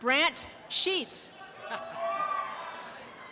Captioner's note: applause and cheering